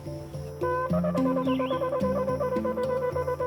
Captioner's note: blowing horn